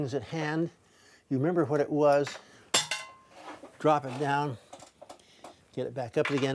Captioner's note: metal clatters on floor